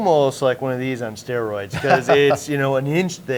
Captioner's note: laughs